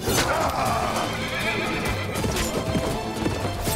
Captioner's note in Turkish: At kişniyor